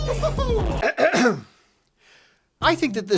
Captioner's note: clearing throat